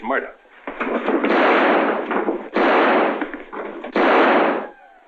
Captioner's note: gunshots